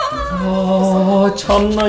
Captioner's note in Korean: 떨리는 탄성